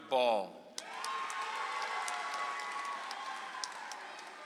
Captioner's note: audience applauds